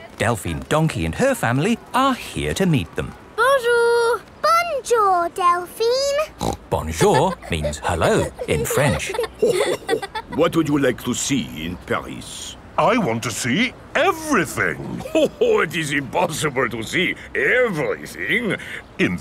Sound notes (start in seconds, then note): 6.3 snorts; 9.6 chuckles